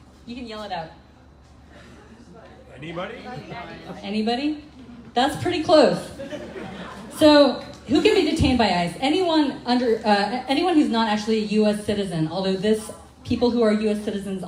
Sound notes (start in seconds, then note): 3.0 crowd; 6.0 crowd laughing